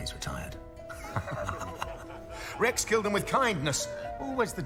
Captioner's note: laughs